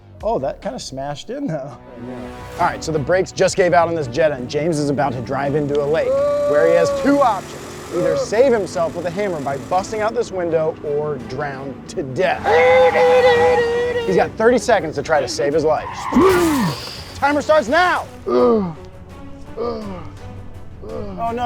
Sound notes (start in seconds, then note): 5.7 screaming; 12.1 tires squealing; 12.7 shouting; 16.1 imitates car crash; 16.1 tires squealing; 18.5 grunting